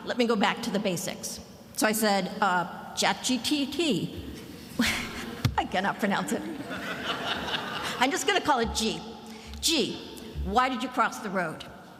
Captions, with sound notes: Let me go back to the basics. So I said ChatGPT, I cannot pronounce it. (student laughing) I'm just gonna call it G. G, why did you cross the road?